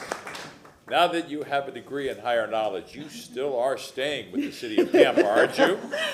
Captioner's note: applause